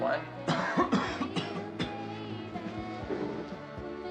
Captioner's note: Chance coughing